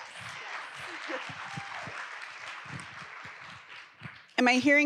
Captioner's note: audience applauds